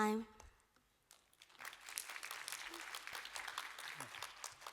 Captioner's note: applause